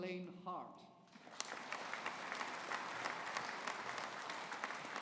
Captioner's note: audience applauding